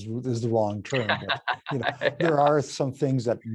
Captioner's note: laughing